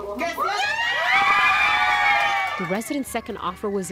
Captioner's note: cheering